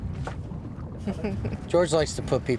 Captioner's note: laughs